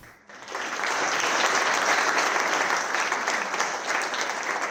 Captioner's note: audience applauds